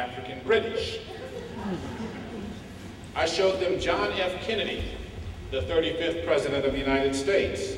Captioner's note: laughter